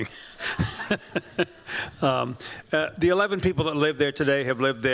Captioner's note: chuckles